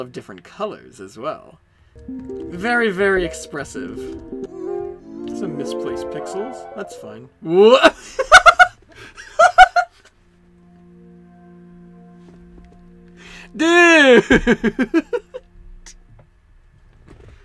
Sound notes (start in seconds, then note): 8.0 laughing